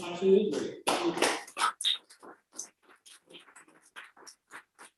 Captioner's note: applause